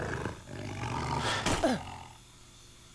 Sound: snarling; grunting

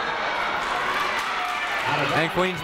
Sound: crowd applauding

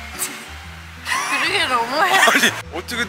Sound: laughing

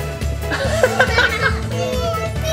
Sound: laughter

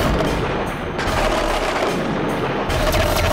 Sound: rattling

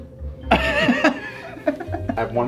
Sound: laughs

